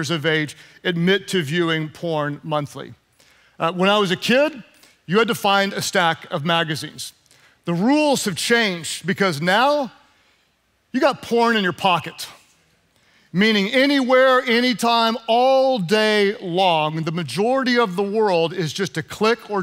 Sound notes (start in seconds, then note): none